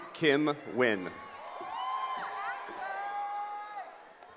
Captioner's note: cheering